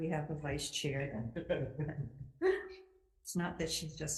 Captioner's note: committee laughing